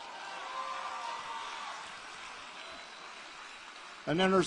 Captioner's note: applause